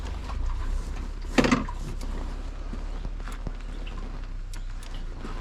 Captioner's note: motorcycle side stand thuds